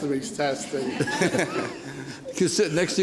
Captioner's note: laughs